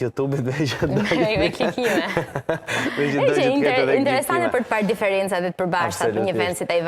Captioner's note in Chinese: 笑聲